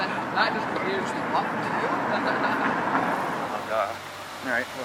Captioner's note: laughing